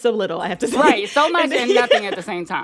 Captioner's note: laughter